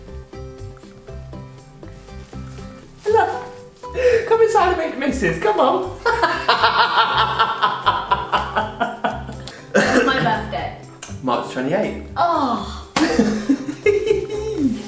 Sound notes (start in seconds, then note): 6.0 both laugh; 13.0 laughs